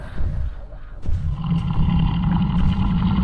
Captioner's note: footfalls thudding; Dweller snarling